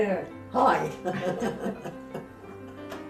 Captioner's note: laughs